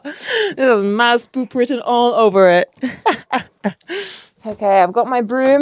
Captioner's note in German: lacht; lacht